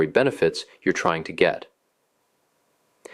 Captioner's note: pause